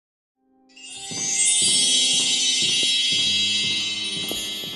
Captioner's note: magical sparkling chime; piano dancing music